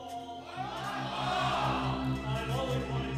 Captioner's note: crowd